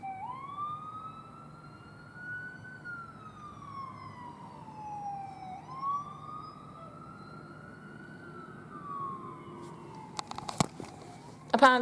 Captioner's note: sirens; ambulance sirens